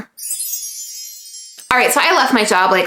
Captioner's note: chimes tinkle